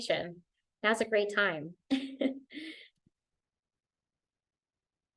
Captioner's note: laughter